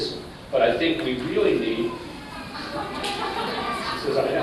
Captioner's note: laughter